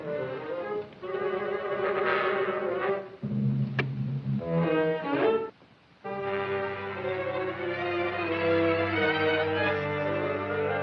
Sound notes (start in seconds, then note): 3.7 switch Clicks